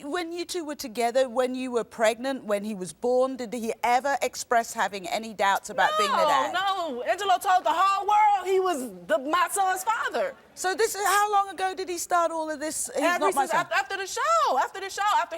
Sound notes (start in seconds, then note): none